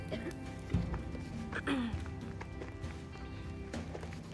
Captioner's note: clears throat